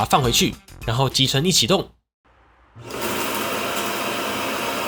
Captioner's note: dust collection starts